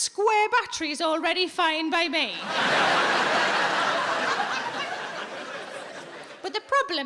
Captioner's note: audience laughs